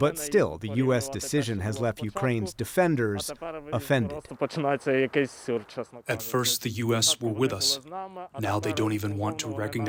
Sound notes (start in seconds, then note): 6.9 through translator